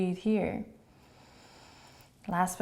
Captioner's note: inhaling